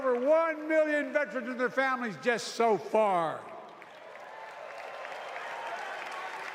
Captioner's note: applause